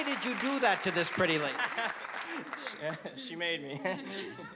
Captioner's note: laughs